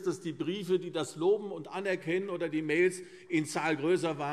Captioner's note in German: none